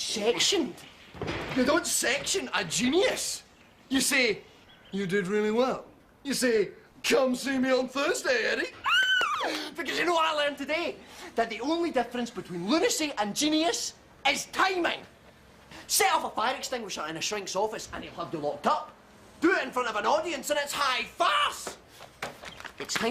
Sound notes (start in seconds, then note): 8.7 exclaims